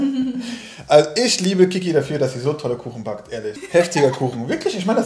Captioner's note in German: beide lachen; lacht